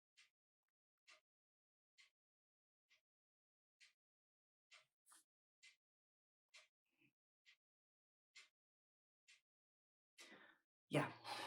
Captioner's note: clock ticking